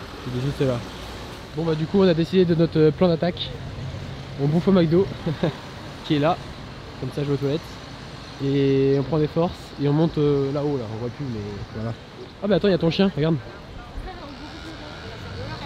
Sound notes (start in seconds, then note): 5.1 laughs